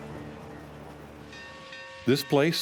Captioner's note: train crossing bell